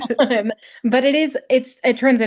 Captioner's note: both giggling